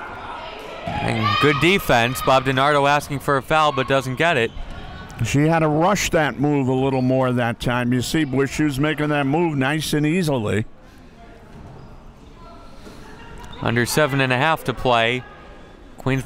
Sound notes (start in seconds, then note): 12.5 crowd murmuring